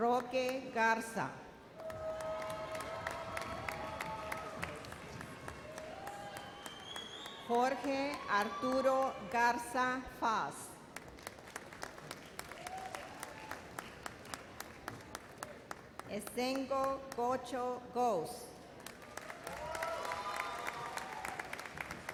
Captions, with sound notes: Roque Garza. (audience cheers and applauds) Jorge Arturo Garza Faz. (audience applauds) Essengo Gocho Goz. (audience cheers and applauds)